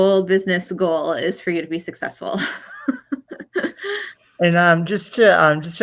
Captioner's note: laughs softly